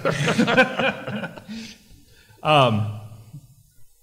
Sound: all laughing

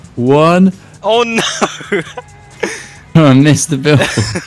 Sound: laughter

